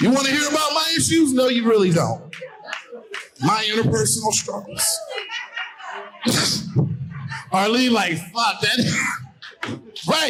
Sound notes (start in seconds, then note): 5.4 laughing